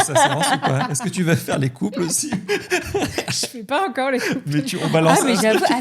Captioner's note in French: rires; rires